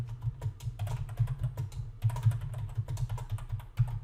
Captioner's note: keyboard clacking